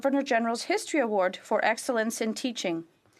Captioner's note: speaking French